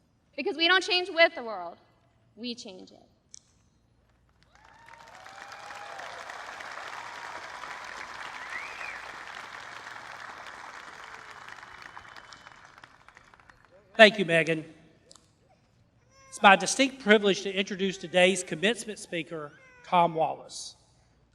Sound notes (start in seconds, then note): 4.2 applause